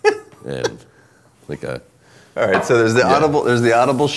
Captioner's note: laughing